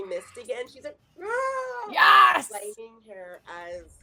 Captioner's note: screams